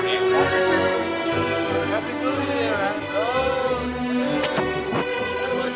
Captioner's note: accented